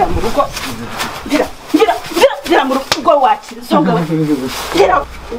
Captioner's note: groaning